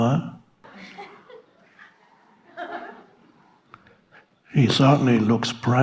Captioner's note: audience laughing